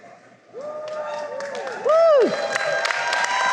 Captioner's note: cheering and applause